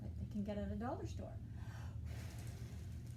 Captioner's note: inhale; exhale